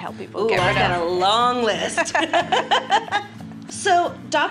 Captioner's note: laughs